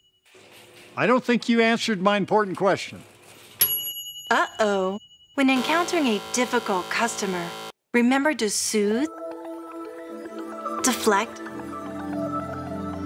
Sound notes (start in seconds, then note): 3.6 bell dings; 11.0 gentle synth music